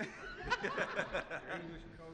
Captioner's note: laughter